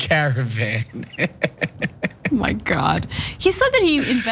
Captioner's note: laugh